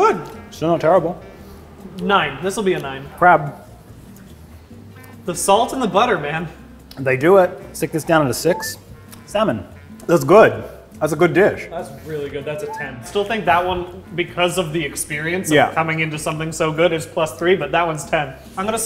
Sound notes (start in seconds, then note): none